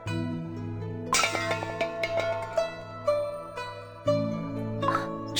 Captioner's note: crash!